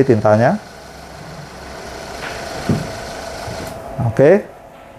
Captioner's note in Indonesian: suara mesin printer